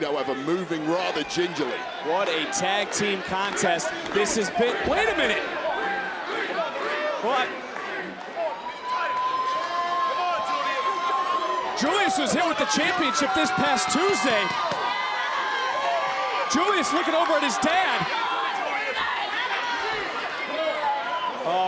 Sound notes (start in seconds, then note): 16.2 audience chattering